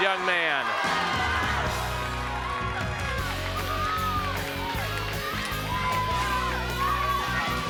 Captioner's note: crowd cheering; upbeat music